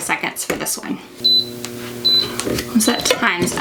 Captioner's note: heat press bleeps